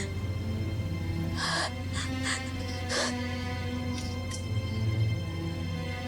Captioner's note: sobbing